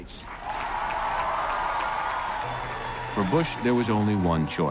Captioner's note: crowd cheers and applauds